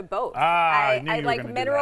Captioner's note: laughs